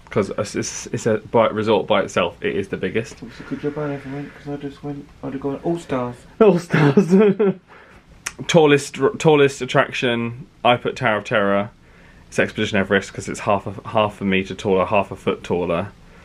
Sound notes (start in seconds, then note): 6.6 laughs